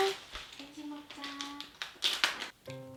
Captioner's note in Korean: 바스락